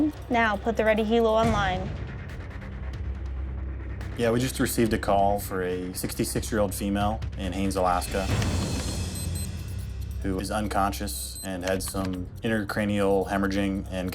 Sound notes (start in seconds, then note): 8.4 keys typing; 8.5 watch alarm beeping